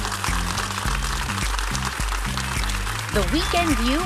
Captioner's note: applause